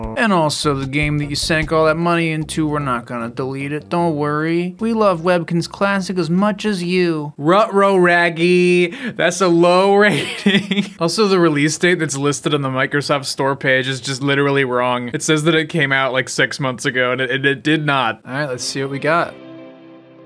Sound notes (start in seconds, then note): 0.2 apathetic voice; 4.7 apathetic voice; 10.5 laughs